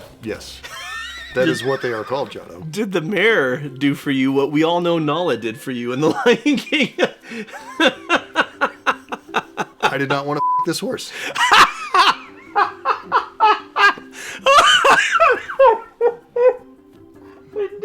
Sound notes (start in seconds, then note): 11.1 guffaws; 14.0 inhale